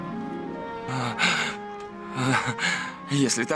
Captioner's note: chuckles